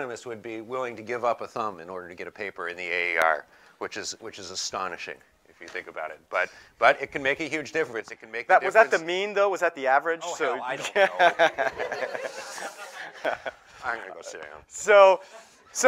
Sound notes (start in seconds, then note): 10.8 laughter